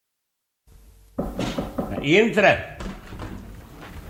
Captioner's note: knocking on the door